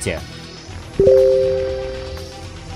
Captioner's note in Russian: звук уведомления